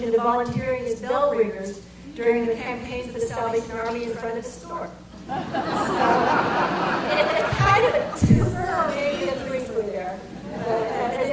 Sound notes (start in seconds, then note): 5.2 audience laughter